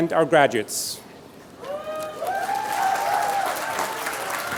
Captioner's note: applause